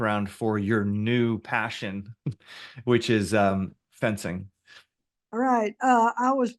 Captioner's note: chuckles